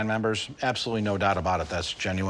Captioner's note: none